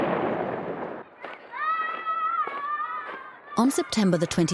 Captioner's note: booming; children yelling